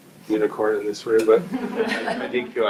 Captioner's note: group laughs